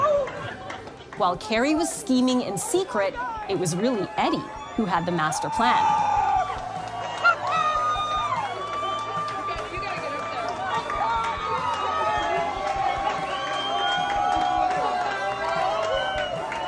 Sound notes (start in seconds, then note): 6.8 crowd cheering